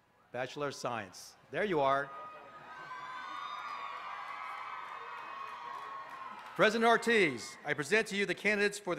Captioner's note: applause